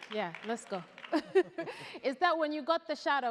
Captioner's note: laughs